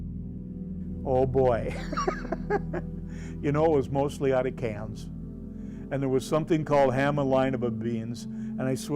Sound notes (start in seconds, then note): 1.7 laughs